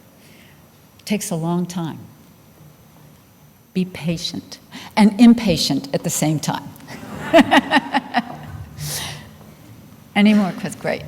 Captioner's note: laughter